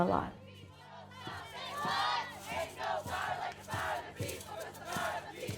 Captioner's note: people chanting